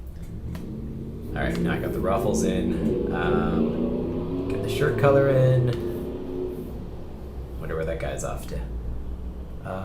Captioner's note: vroom